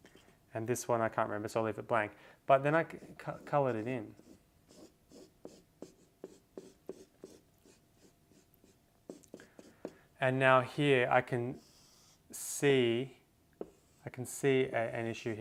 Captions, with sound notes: And this one I can't remember so I'll leave it blank. But then I colored it in. (pen tapping) And now here I can see an issue here